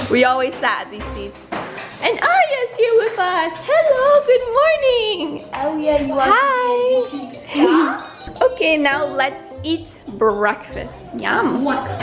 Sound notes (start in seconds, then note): 6.7 laughs; 7.0 babbling